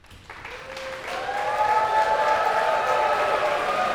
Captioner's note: cheers and applause